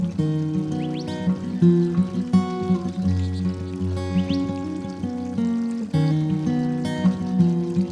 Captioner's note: birds chirping